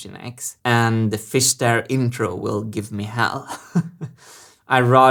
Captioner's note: chuckles